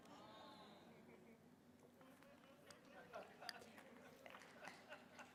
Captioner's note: audience laughing